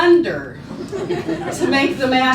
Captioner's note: laughing